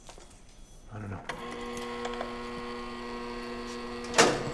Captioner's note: door buzzing